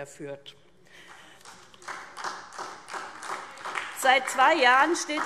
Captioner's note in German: Beifall SPD